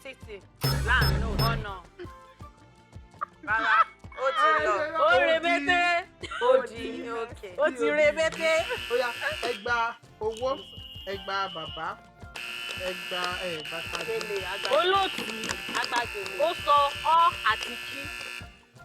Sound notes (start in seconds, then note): 2.3 laughs; 8.5 buzzer pressed